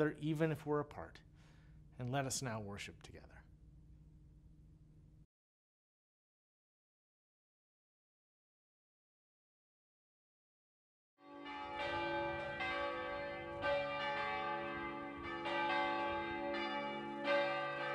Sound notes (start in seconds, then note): 7.0 tower Bells Ring Out